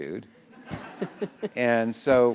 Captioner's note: laughter